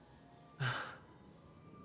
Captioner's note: laugh